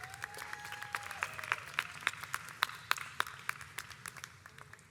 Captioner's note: audience applauds